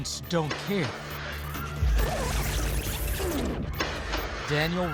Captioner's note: gunshots